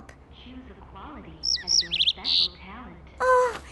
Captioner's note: chirp